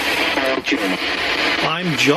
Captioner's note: Ovilus speaking